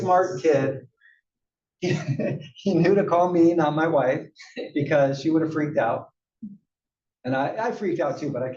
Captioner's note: laugh